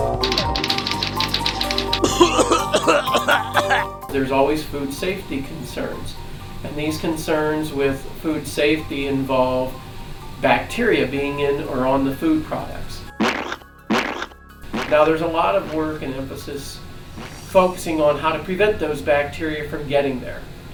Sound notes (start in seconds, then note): 0.2 typing; 2.0 gagging sounds; 13.1 squishing sounds